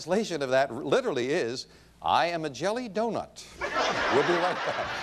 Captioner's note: audience laughing